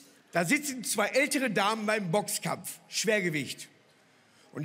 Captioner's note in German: none